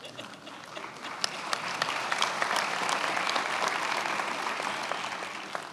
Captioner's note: attendees applauding